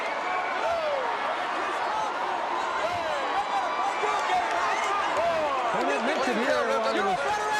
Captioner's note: crowd cheering